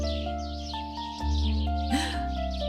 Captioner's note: Elara gasps